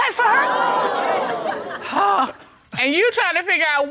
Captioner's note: audience exclaiming